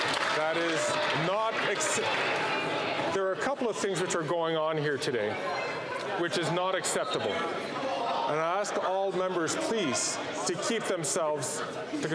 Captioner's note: some Applause